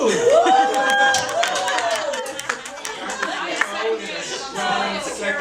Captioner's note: audience applauding